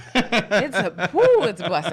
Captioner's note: laughing